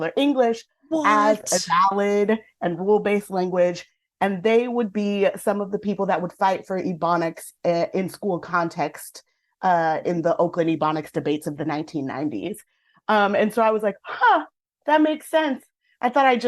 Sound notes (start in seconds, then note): none